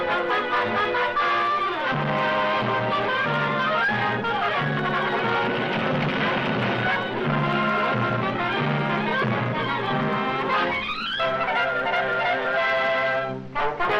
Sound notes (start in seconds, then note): 5.2 stone crashing; 7.6 suspenseful music continues; 11.5 dramatic music